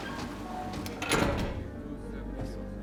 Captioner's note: door open close